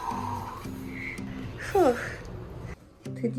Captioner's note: deep breath